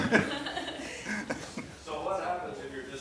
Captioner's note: laughs